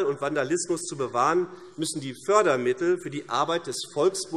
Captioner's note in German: none